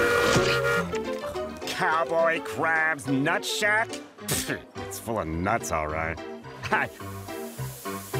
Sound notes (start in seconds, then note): 4.1 scoffs